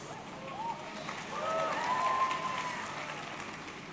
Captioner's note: audience cheering